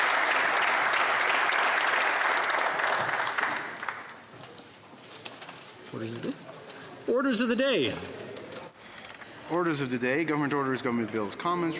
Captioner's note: some Applause